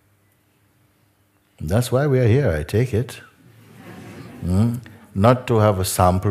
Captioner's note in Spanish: risas